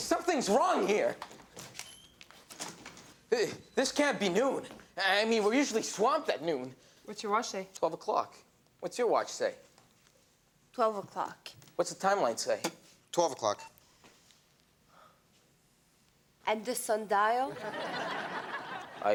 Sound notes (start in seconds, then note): 1.6 door squeaks; 17.5 audience laughs